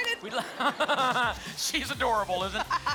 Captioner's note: laughter